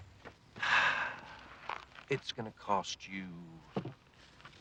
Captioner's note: sighs